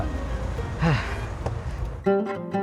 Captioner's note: sigh